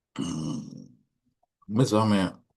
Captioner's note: clearing throat